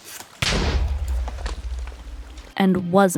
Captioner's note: explosion